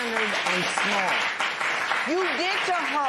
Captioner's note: applause